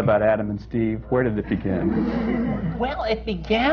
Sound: laughter

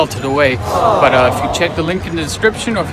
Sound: groaning

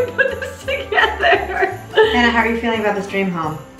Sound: laughs

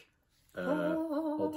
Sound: singsongy

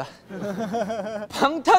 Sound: kekekekeke

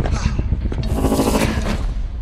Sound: sonorous vibratn

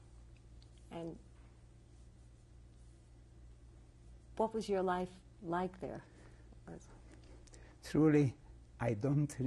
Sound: pauses for 3 seconds

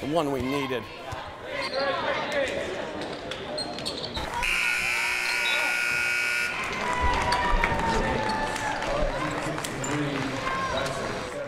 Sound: buzzer

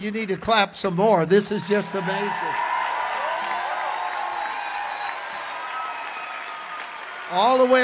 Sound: congregation cheers

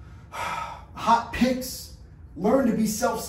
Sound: exhales

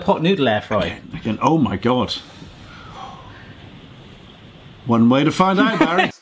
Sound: draws breath in wonder; laughs

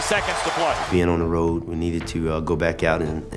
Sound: voiceover

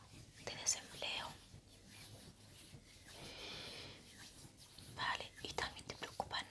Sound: sound of hands

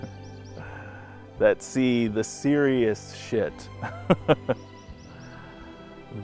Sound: laughs again

